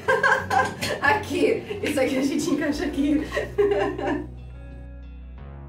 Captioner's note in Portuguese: rindo de nervoso